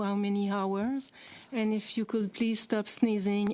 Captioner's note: speaking french